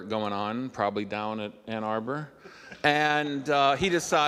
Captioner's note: audience laughing